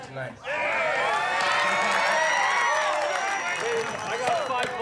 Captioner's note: cheering and applause